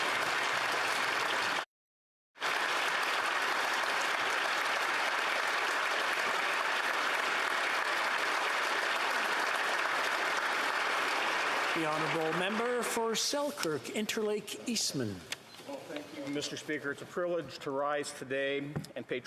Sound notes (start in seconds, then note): 2.3 applause